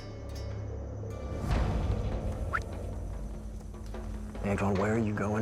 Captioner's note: whistles